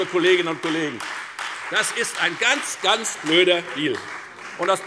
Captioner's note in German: Beifall Freie Demokraten und vereinzelt SPD